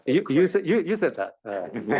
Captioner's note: laugh